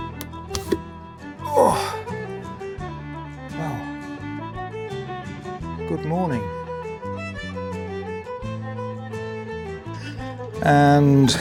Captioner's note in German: Stöhnen beim Aufwachen